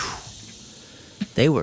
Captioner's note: imitates explosion